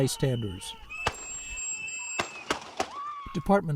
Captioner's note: screaming; gunshots